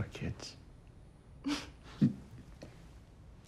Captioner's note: she laughs